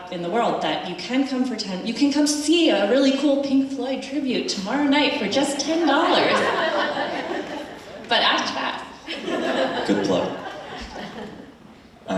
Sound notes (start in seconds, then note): 5.7 attendees laughing